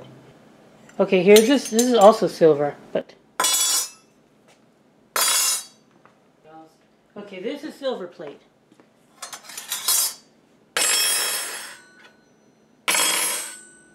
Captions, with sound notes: Okay here's this, this also silver but. (Clank) (Clank) Okay, this is silver plate. (Clinking spoons) (Hollower clank that rings longer, as plated fork is dropped) (Clank)